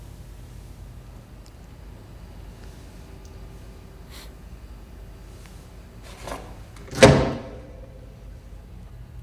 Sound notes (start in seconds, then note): 4.0 David sniffs fingers; 6.0 flap slams shut